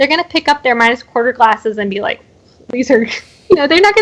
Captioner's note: laughs